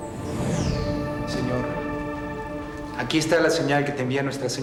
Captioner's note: speaking spanish